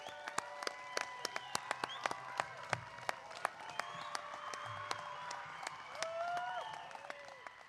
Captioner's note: cheering